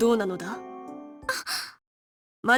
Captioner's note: gasp